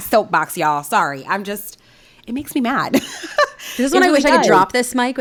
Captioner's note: laughing